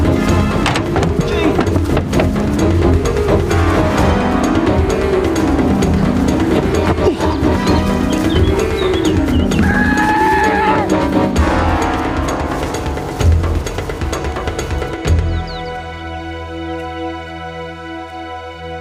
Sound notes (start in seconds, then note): 9.5 runner screams; 15.3 birds chirping; 18.6 calm music